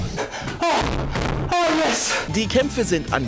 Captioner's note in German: stöhnend